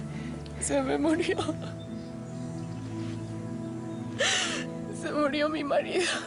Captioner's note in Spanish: Sollozos